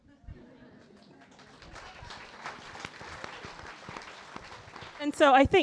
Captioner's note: audience applauding